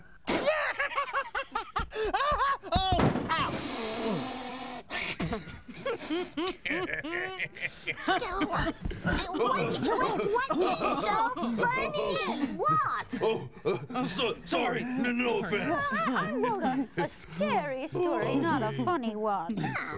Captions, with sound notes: ( laughing ) ( crashes ) ( snickering, chuckling ) WHAT, WHAT... WHAT IS SO FUNNY? YES, WHAT?! SORRY, NO OFFENSE. I WROTE A SCARY STORY, NOT A FUNNY ONE.